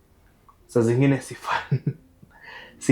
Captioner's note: laughing